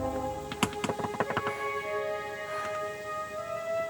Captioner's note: door knocking